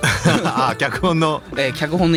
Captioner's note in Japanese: 笑い